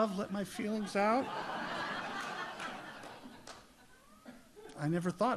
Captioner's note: audience laughs